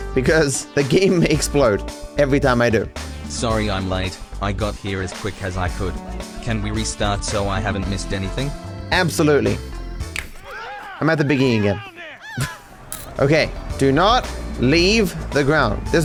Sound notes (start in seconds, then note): 10.0 Thanos snap